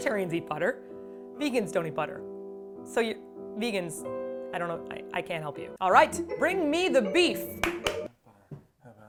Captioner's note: claps